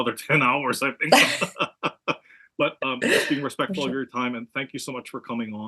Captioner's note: laugh